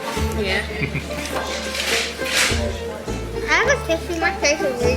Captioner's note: chuckles